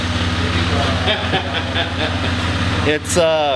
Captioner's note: laughs